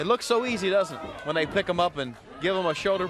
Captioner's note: crowd chatter